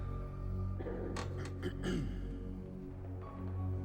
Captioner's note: clears throat